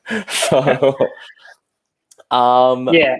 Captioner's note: laughing